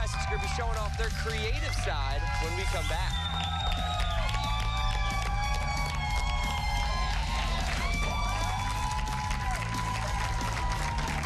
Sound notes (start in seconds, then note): 8.6 cheers and applause